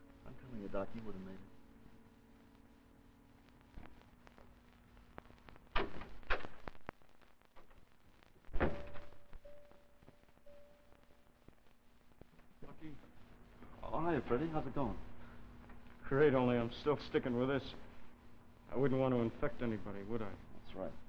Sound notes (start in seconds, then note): 5.5 sound of door opening and closing; 10.4 dinging sound